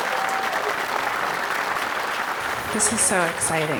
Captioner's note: audience clapping